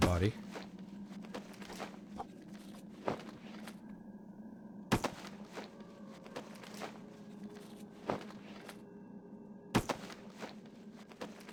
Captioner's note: footsteps